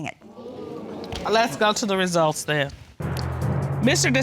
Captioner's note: audience exclaiming